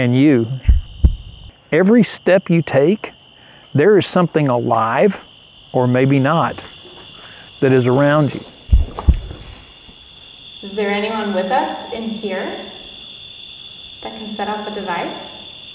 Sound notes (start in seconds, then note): 8.6 heartbeat echoes